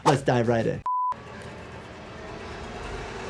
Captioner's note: frame beeping; tense music